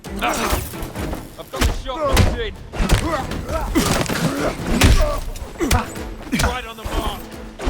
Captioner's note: groaning